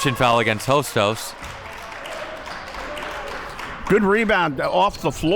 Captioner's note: audience clapping